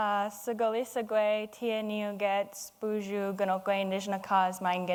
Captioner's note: speaking in foreign language